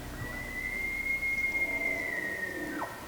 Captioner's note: elk calls